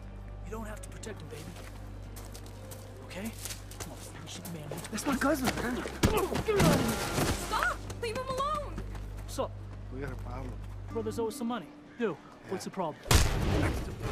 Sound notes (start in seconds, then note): 6.0 kick thudding; 13.0 punch smacking